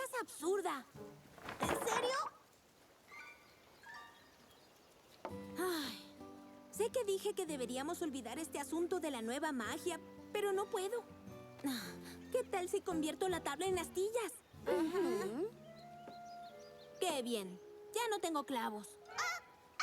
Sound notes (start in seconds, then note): 5.9 sigh